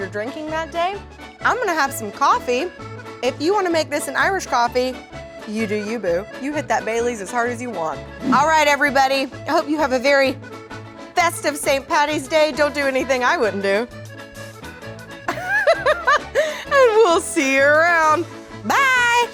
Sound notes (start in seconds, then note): 15.2 laughs